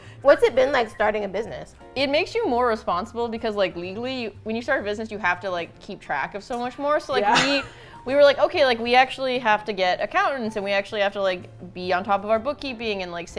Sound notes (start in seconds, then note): 7.2 chuckles